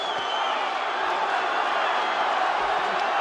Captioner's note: cheers